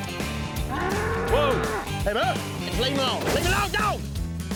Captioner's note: shouts; thuds to ground